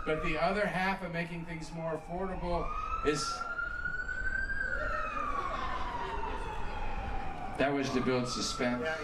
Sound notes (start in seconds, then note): 3.7 siren wails